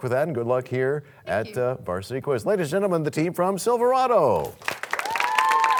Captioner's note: cheers and applause